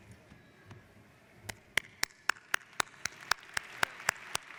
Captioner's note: applauding